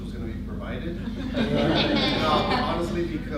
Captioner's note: laughter